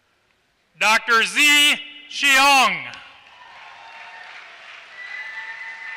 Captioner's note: applause